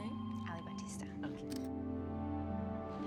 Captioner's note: camera shutter